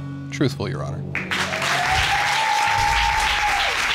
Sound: audience cheers

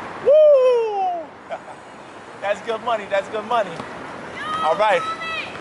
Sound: laughs

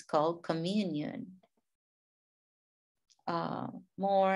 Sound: speaking in a foreign language

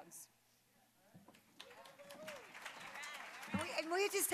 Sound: applause

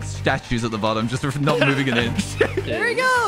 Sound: laughs

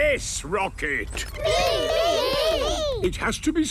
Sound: calling out in turn

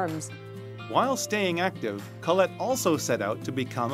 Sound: voiceover

